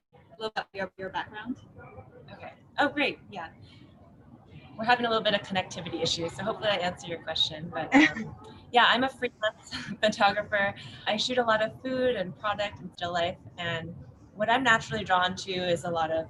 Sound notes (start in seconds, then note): 1.0 audio drops; 7.7 laughs